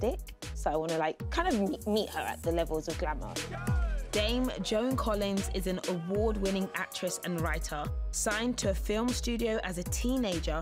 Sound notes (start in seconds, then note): none